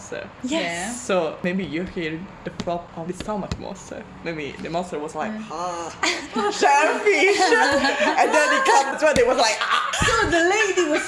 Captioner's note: choked